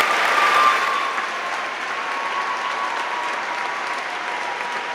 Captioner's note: audience applauding